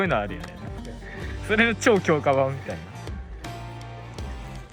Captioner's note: laughs